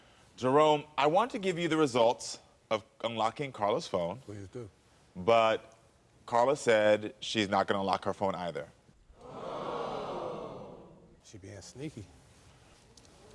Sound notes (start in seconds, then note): 9.2 audience gasping